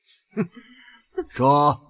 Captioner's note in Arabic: يضحك بسخرية